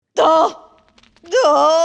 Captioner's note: groans